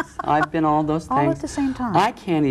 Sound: laughing

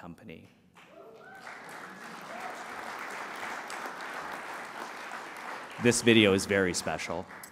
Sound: applause

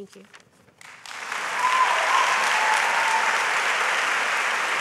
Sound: audience applauds

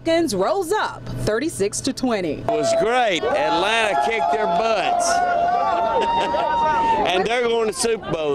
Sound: cheering

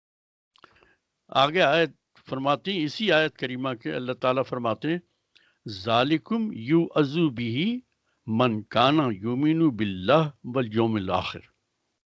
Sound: speaks Arabic

